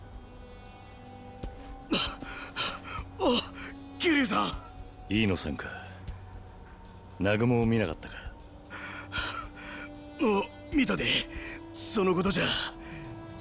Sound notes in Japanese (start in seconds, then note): 1.5 荒い息; 8.5 荒い息; 8.7 息をのむ音